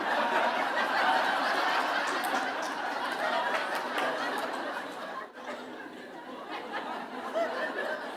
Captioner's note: laughter